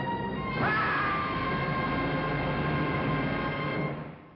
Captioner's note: screams